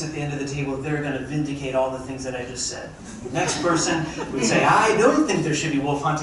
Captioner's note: crowd chuckling